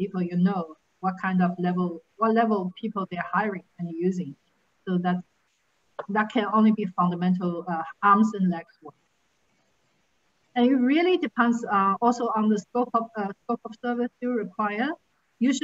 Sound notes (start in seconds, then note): 8.3 faintly speaking